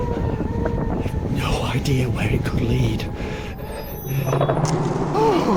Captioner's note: portal sound